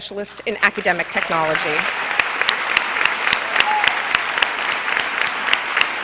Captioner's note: cheers and applause